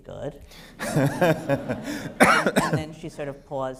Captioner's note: laughter